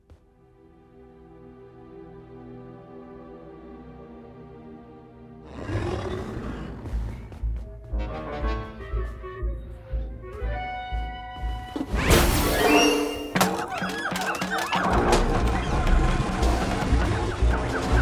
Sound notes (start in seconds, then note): 0.4 pensive music plays; 5.4 Kaufmo growls; 7.4 sneaky music plays; 13.3 monkeys hooting, shrieking